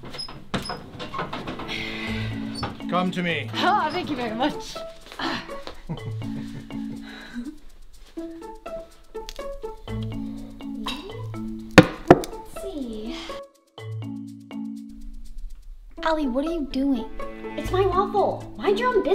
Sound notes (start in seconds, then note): 5.3 quirky music; 11.8 object thuds